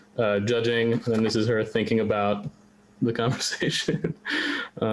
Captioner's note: laughs